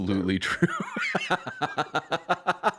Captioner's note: laughter